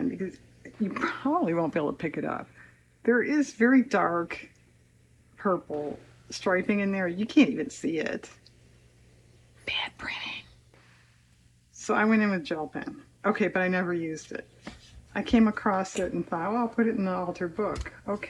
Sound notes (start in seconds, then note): 9.3 whispers